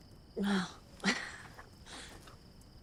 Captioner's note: chuckles